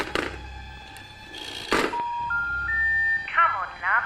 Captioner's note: button clanking; phone cranking; busy signal beeping